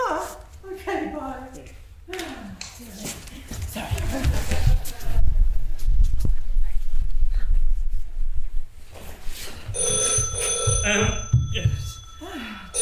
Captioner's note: phone rings